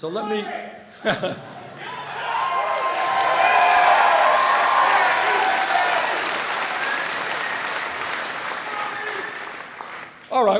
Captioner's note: audience shouts